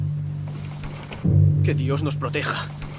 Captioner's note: Ramirez speaks Spanish